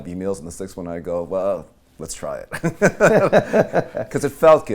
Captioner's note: laughing